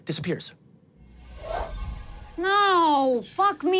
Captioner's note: chimes ringing